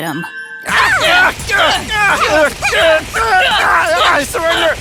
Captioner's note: all grunting